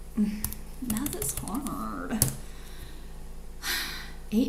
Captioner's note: sighs